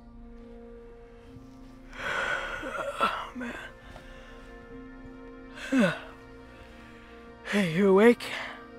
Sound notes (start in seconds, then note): 2.0 yawning